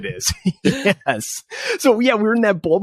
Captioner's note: both laugh